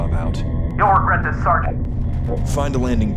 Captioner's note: over Comms